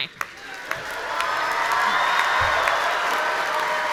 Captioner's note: audience cheering